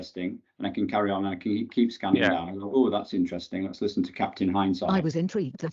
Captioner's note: computer speaks